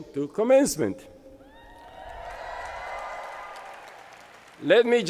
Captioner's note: crowd cheering